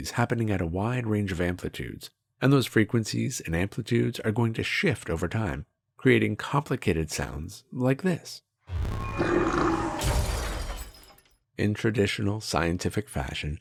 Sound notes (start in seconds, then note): 8.7 strange alien noise